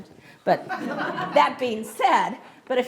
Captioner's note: audience laughs